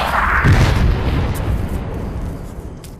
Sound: explodes

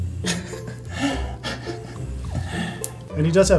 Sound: laughs

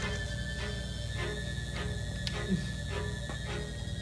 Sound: electricity buzzes

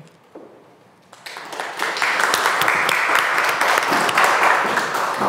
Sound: audience applauding

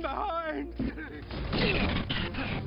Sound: sobs

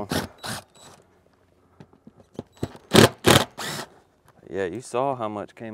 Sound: power tool whirring

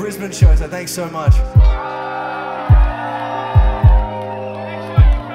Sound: audience cheers

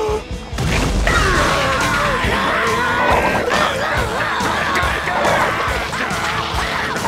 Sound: grunting

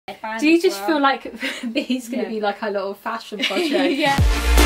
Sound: laughter

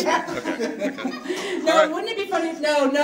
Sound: audience laughs

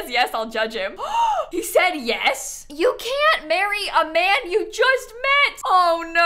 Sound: gasps

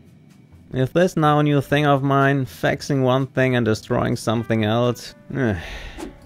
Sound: sigh

